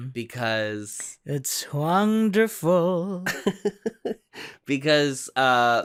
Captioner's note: laughs